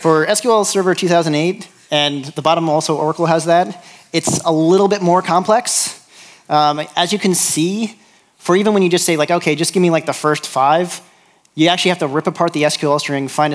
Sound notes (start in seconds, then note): none